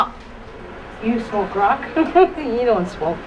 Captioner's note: laughs